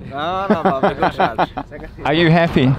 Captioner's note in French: Langue locale